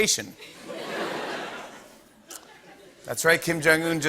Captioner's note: laughter